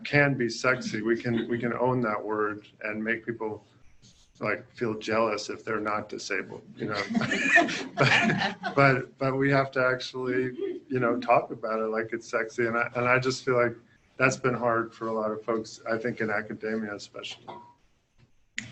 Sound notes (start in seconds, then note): 6.8 laughter